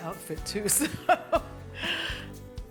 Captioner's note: laughs